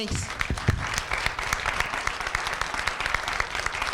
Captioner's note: applause